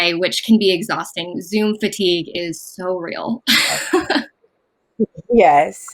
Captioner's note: laughs